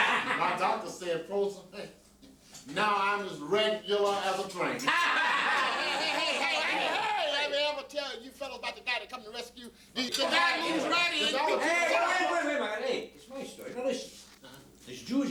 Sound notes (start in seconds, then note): 4.9 laughter; 10.0 voices arguing